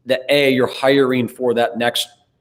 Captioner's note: none